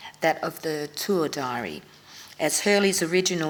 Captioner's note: none